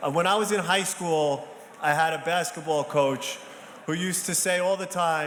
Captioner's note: none